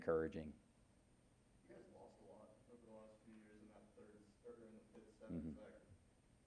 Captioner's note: crowd speaking quietly